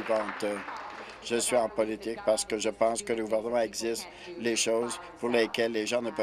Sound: applause

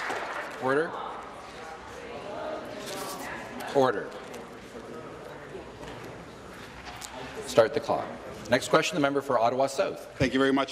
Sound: applause

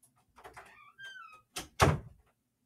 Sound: closes door

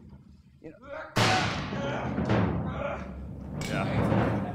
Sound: actors grunting

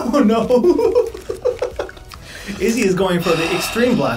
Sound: laughs

